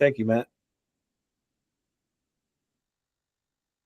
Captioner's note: silence